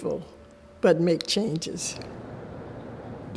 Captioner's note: car engine revving